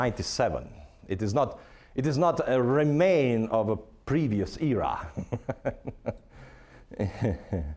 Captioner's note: chuckling